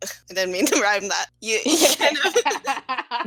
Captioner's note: laughter